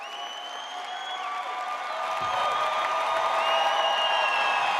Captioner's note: audience cheers